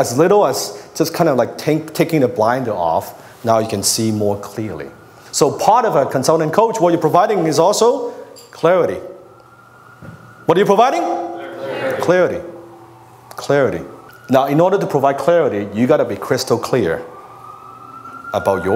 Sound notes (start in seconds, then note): 11.4 crowd